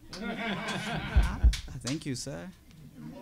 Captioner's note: laughing